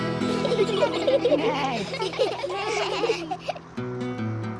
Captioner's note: all giggle